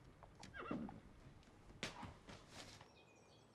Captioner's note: horse whinnies; birds chirping